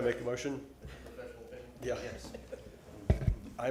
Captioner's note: laughter